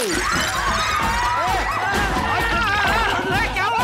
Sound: screaming

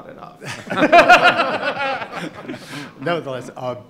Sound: laughing

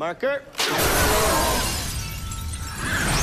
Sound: glass shattering

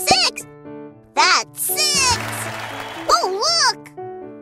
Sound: crowd cheering

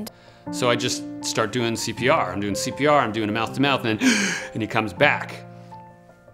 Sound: inhale

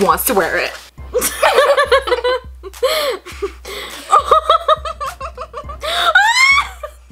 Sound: laughs

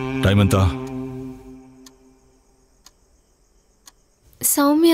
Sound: clock ticking

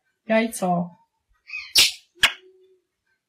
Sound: kissing smackingly

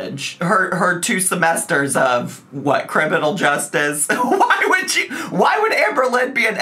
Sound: laughs

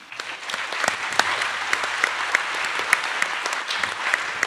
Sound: attendees applauding

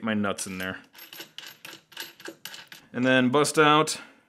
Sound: nuts rolling

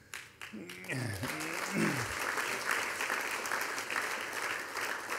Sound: audience applauding

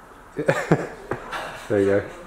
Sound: laughing

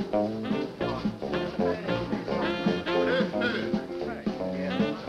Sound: party goers chattering

